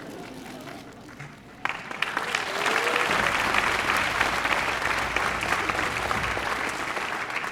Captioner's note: applause